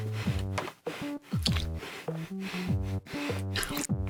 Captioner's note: erratic breathing; squelches